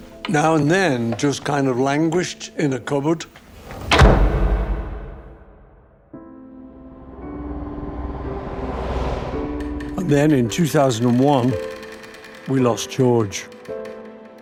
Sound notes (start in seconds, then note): 3.5 door slamming; 6.0 contemplative music playing